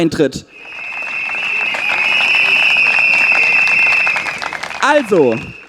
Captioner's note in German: Applaus und Trillerpfeifen